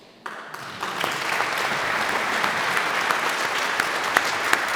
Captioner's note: audience applauds